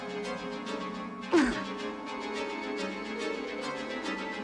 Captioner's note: grunts; ominous music